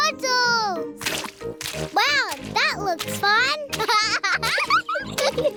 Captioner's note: laughs